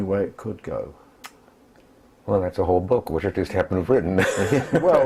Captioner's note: laugh